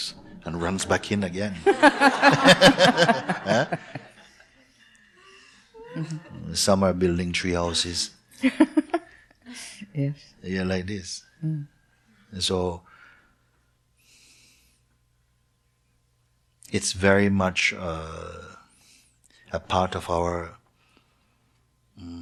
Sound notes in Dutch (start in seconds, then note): 4.7 gelach; 9.4 lacht